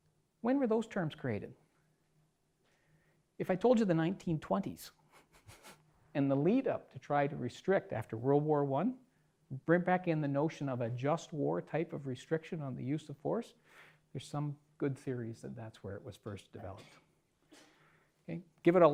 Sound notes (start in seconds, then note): 5.1 laughs